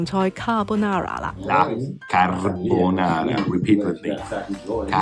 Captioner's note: Italian